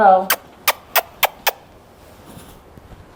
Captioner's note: lips smacking